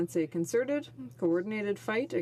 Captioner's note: speaking French